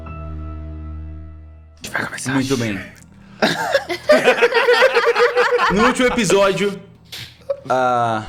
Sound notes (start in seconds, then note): 3.4 everyone laughs